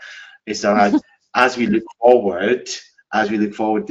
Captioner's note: laughing